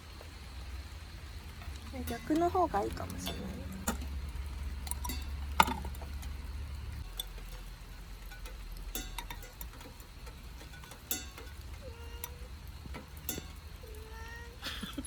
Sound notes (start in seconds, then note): 11.1 ting